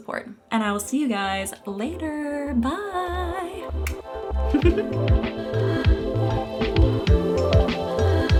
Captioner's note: kiss, laughs; happy electronic music